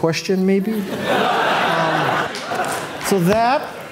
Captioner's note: audience laughing